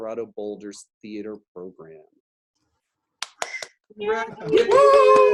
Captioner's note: clapping